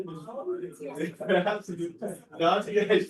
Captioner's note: laughter